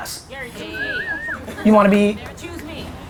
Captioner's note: audience member whistles